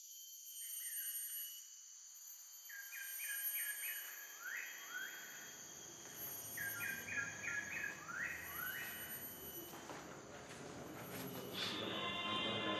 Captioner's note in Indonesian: suara burung; ring tone